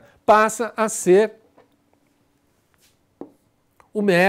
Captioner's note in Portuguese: silêncio